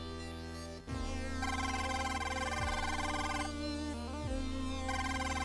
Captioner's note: beeping